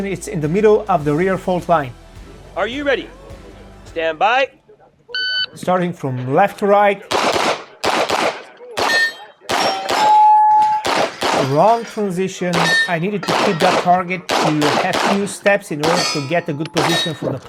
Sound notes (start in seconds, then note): 7.0 gunshots banging; 8.7 targets pinging